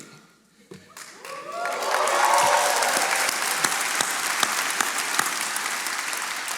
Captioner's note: attendees cheering and applauding